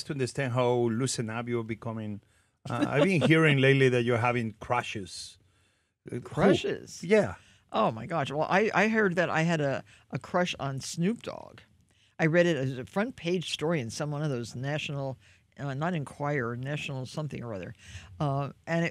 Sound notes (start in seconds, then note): 2.7 Martha laughs